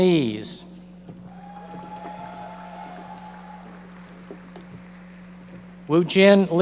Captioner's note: audience members applauding